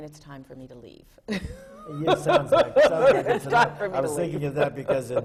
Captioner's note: laughter from the panel